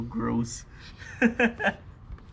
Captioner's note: laughs